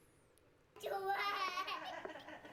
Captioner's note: speaking in foreign language; laughing